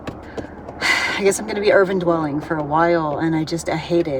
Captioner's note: tapping on steering wheel; sigh